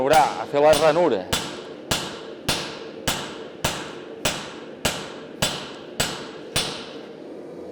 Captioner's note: sharp metallic hammering